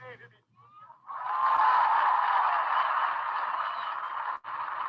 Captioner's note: audience applauding